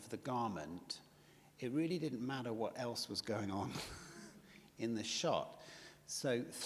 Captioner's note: chuckles